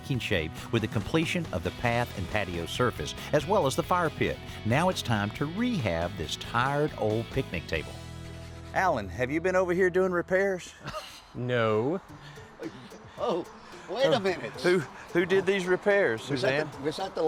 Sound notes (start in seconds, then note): 10.7 chuckles